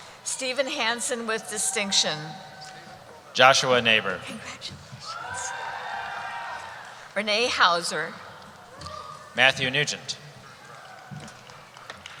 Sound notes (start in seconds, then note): 0.0 cheering; 4.4 voiceover